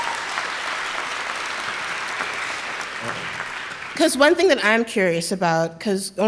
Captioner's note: cheering